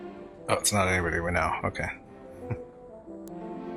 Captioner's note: chuckling